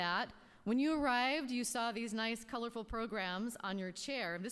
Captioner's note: none